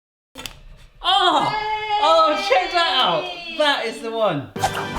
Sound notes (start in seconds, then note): 1.4 cheering; 4.6 dramatic music